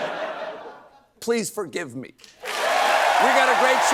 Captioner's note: cheers and applause